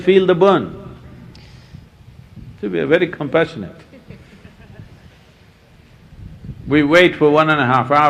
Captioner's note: few laugh